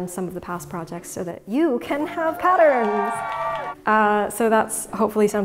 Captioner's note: audience cheers